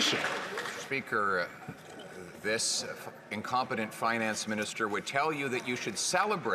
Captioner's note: some Applause